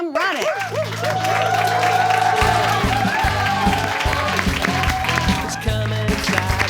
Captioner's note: audience claps; upbeat music